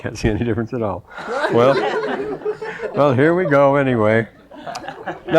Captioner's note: laughter